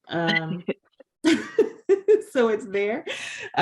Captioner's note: laughing